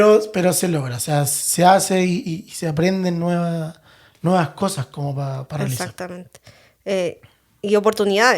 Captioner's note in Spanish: carraspeo